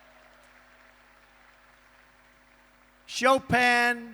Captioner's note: applause